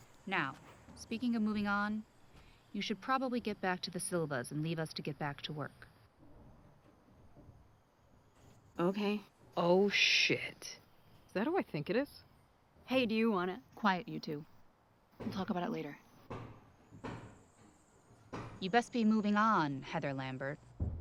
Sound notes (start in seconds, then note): 17.3 fist pounding